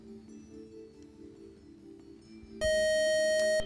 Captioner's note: time up buzzer